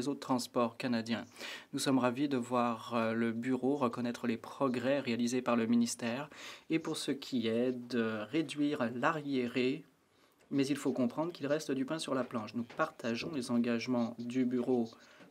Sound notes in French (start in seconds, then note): 5.4 voix de l'interprète